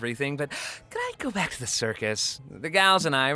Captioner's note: inhales sharply